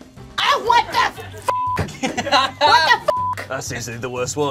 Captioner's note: beep